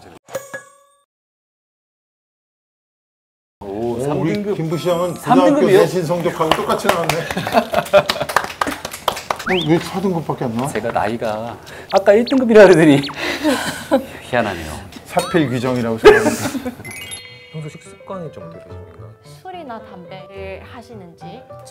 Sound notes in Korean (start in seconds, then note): 7.1 웃음; 16.8 반짝이는 효과음